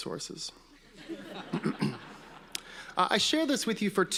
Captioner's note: audience laughing